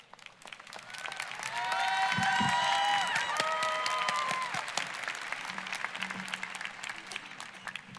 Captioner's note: audience cheering, applause